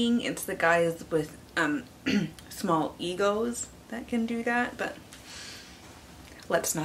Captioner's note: ahem